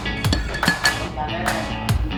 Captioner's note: clatter of spoon